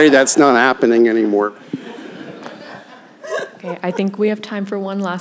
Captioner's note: laughter